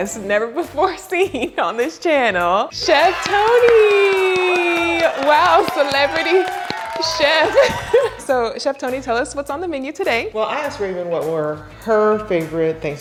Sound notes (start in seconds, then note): 6.5 laughs; 7.0 audience applauding